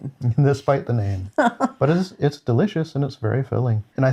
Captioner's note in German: lacht